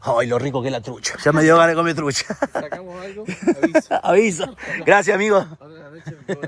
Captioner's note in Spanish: risas